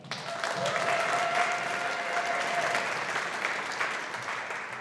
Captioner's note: audience applauding